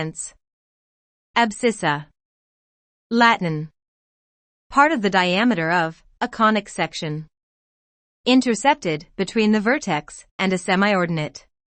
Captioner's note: Latin